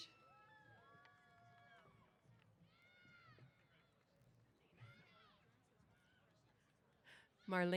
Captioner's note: cheers